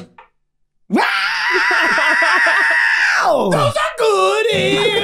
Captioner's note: Charlie shrieking